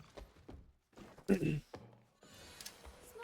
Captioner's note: ahem